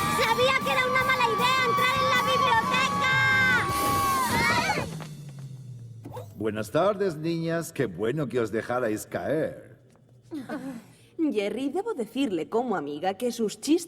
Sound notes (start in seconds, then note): 4.5 grunting